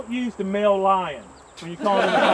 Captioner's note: laughter